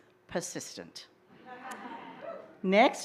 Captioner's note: laughter, cheers